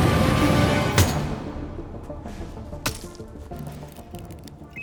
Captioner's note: hammer thunks